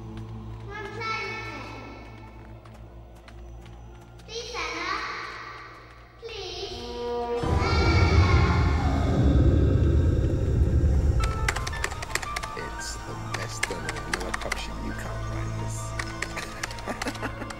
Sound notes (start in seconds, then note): 7.2 soft ominous music; 11.2 keyboard tapping; 16.1 Martin laughing; 17.3 haunting orchestral music